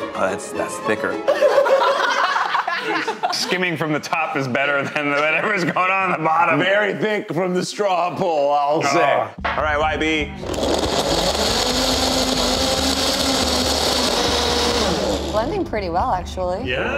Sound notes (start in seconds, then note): 1.2 contestants laugh; 10.4 blender whirs; 16.7 suspenseful music